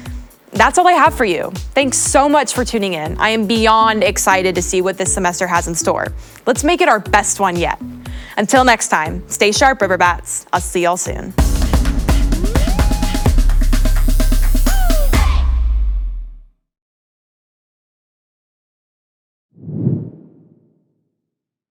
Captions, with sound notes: That's all I have for you. Thanks so much for tuning in. I am beyond excited to see what this semester has in store. Let's make it our best one yet. Until next time, stay sharp Riverbats. I'll see y'all soon. (upbeat music) - Hey! (whoosh)